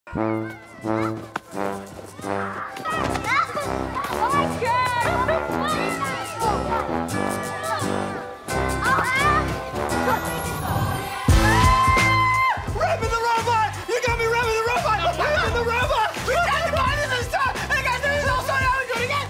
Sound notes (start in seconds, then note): 2.0 children shouting; 11.2 mac screaming